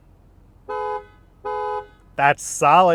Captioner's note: car horn beeping